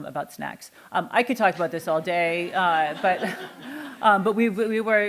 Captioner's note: laughter